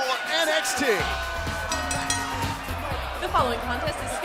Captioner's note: bell ringing